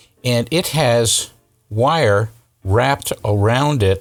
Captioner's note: none